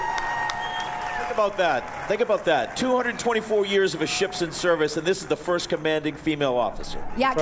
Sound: applause

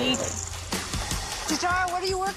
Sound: chocolate rattles, mixer whirs

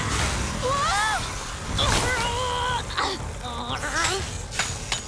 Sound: grunting

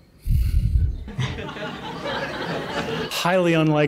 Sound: audience laughter

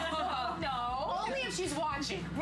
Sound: laughter

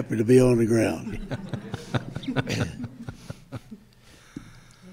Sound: group chuckles

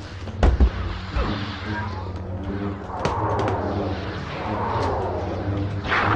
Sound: video game noises

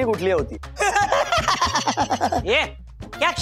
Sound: laughing

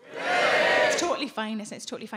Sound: audience cheering

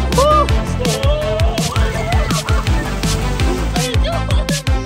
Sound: people screaming

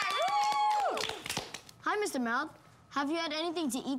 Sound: audience cheering

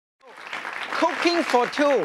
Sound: audience claps

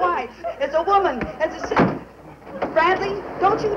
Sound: door slamming

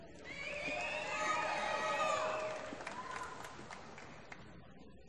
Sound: applause

